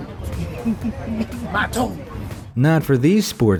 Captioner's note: soft giggles